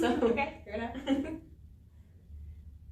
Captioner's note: laughter